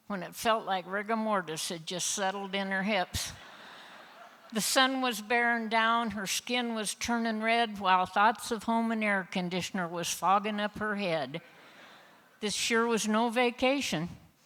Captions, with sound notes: when it felt like rigor mortis had just settled in her hips. (Laughter) The Sun was bearing down her skin was turning red while thoughts of home and air conditioner was fogging up her head. This sure was no vacation